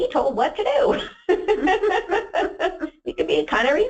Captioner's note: laughs